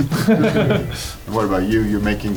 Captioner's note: crowd laughing